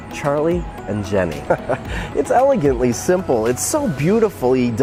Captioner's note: laughs